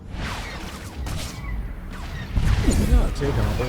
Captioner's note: explosion